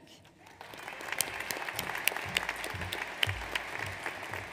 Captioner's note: audience applauds